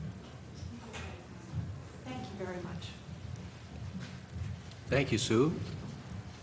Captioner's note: none